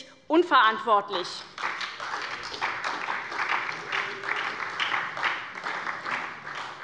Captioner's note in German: Beifall bei Abgeordneten der SPD